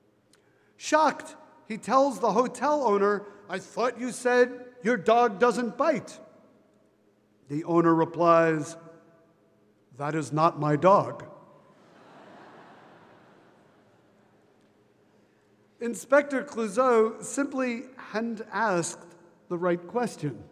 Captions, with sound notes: Shocked, he tells the hotel owner, "I thought you said your dog doesn't bite." The owner replies, "That is not my dog." (audience laughing) Inspector Clouseau simply hadn't asked the right question.